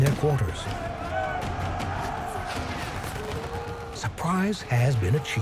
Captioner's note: gunshots whooshing; battle cries